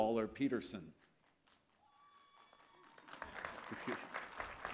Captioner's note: applause